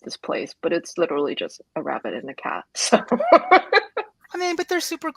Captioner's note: laughs